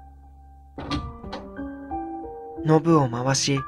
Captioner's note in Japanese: 扉を開く音：ガッチャン